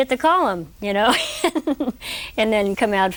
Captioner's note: laughter